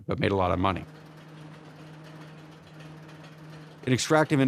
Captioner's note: carts rumble